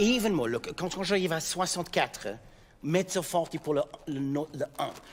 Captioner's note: speaking in French